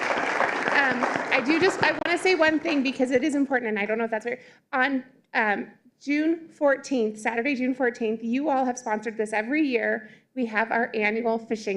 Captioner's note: applause